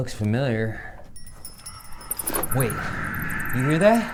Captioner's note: bells jingle